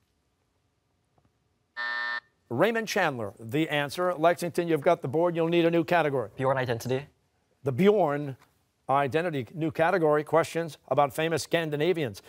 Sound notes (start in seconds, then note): 1.8 buzzer